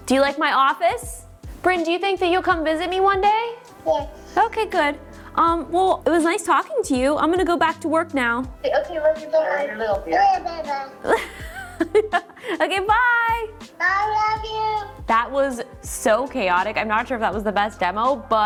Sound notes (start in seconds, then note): 10.4 babbles; 13.0 laughs